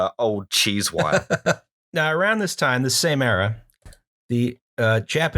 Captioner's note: laughter